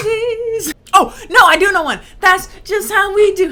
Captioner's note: talking